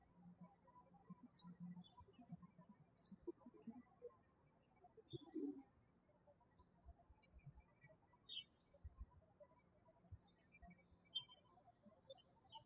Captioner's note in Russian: птички щебечут